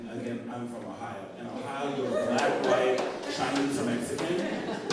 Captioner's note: laughter